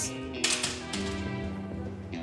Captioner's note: door closed